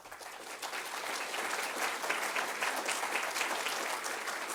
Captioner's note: audience applauds